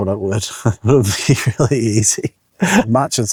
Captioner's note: chuckles